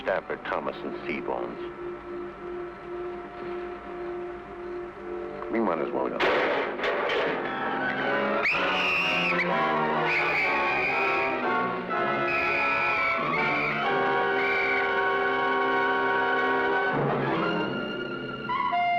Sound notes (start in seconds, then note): 6.2 trashcan clanging; 8.1 whistle blowing; 15.9 suspenseful music